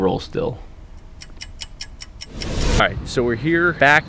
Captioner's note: clock ticking